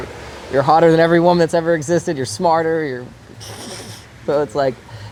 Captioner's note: giggles